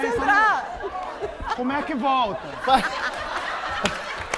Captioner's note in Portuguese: risos